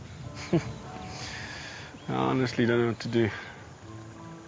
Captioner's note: chuckles